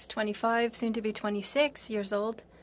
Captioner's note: speaking french